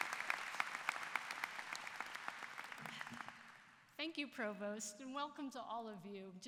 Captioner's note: applause